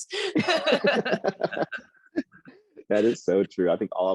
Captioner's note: both laugh